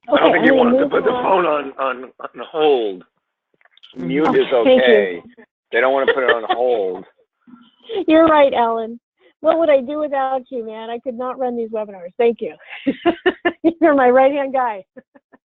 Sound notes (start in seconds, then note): 5.7 laughs; 12.6 laughs